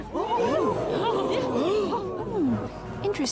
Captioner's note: courtroom audience gasps